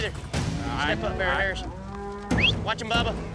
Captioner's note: whistles